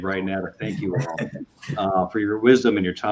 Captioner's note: laughter